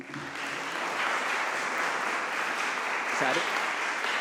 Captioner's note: audience applauds